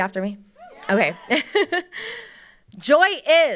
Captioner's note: laughs